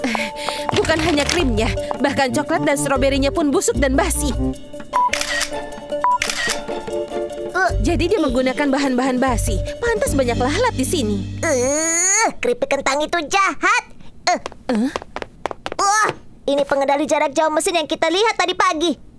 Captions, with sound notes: - And it's not just cream, this fruit he's using is rotten and stale. (camera clicks) with all this mess, it's no wonder the flies gather around this place. - (grunts) What a shady thing to do. Hey, it's a remote control for the machine that does the hair.